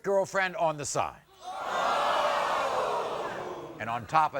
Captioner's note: audience gasping